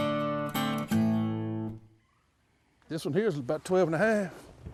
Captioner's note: water splashing